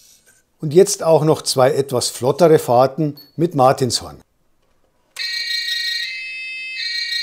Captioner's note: siren